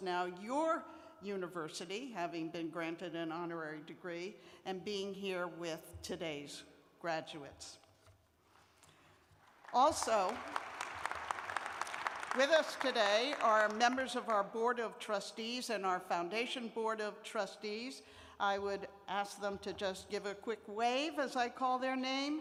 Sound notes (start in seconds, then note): 9.4 applause